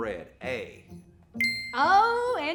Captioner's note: ding